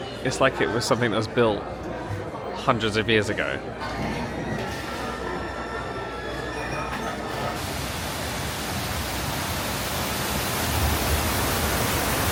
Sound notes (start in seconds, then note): 2.7 whimsical music plays; 8.7 water splashes